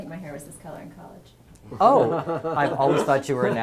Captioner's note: laugh